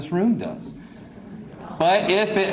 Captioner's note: crowd yells